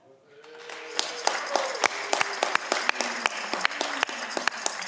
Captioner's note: audience clapping